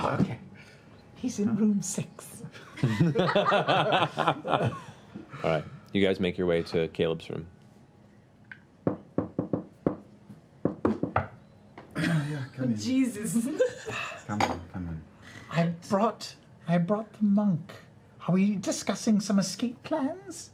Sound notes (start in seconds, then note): 10.6 knocking